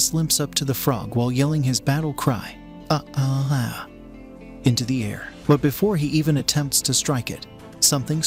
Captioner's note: monotone